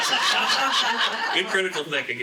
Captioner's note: laughing